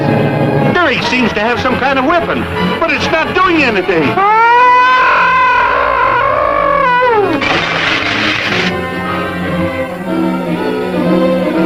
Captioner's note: gargon growls, squeaks